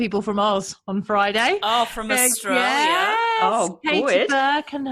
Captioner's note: mock australian accent